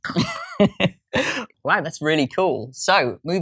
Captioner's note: laughs